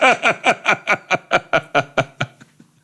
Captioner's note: both laughing